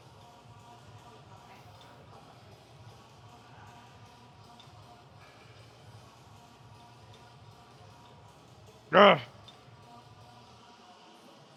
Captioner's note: man groans; man speaking in a foreign language